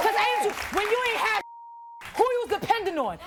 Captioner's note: beep